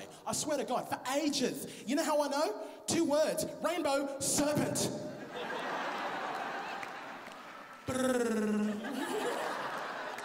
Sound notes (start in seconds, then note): 7.8 rolls tongue